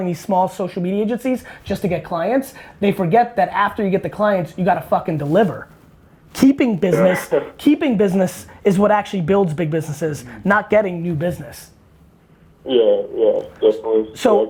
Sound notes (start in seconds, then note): 6.9 laughs